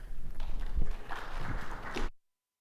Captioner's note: audience clapping